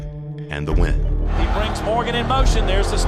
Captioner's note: voiceover